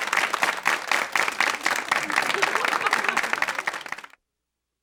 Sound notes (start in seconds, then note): 2.0 crowd laughs